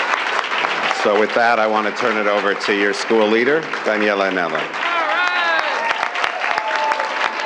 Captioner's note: cheers and applause